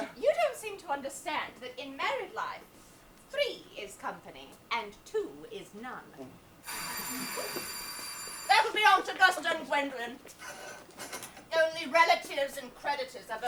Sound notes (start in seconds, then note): 6.6 doorbell rings